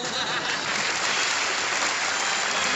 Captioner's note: applause